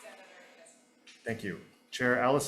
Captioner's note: testifier speaking faintly